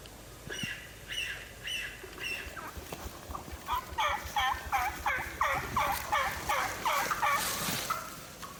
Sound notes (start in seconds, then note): 0.4 birds chirping; 0.4 turkeys gobbling lightly